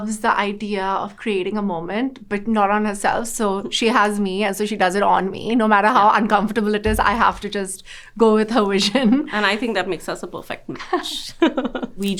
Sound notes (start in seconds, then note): 8.8 laughing; 11.3 both laughing